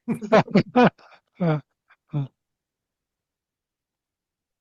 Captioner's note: laughing